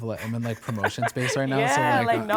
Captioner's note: laughs